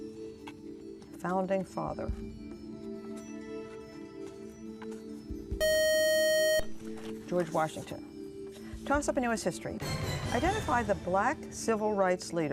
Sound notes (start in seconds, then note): 5.6 buzzer